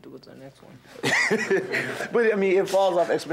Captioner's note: audience laughing